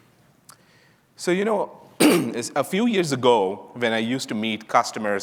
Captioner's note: clears throat